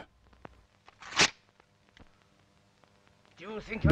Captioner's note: rustling sound